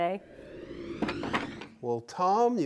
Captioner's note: wood whooshing